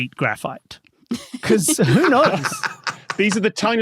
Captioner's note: cackles